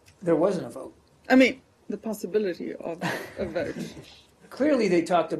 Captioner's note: laughter